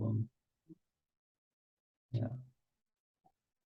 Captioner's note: silence